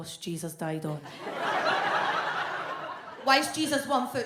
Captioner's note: audience laughs